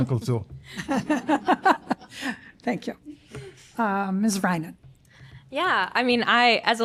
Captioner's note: laughter